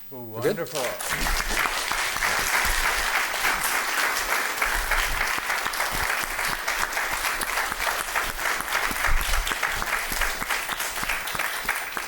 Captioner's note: applause